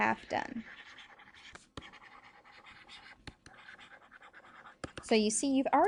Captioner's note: pen scratching on screen